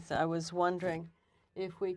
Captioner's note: speaking French